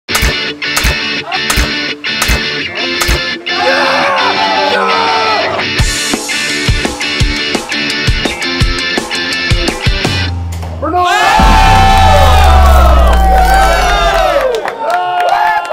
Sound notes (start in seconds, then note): 0.0 upbeat music; 3.5 screaming; 5.8 upbeat music; 10.9 screaming, cheering